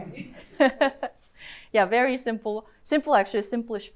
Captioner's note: chuckles